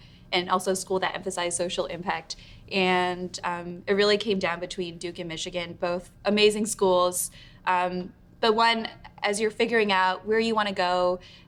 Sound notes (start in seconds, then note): none